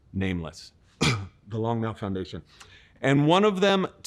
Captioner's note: coughs